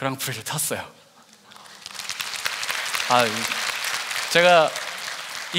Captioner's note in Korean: 박수